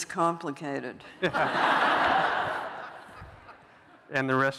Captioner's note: laughter